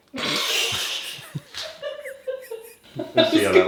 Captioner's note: both laughing